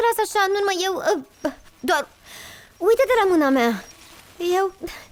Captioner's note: sighs; whimpers